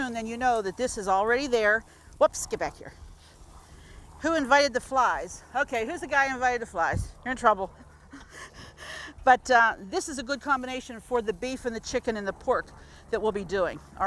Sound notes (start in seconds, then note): 7.7 laughing